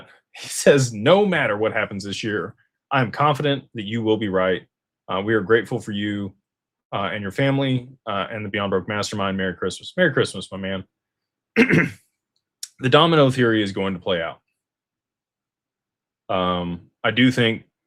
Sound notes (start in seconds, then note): 11.5 clears throat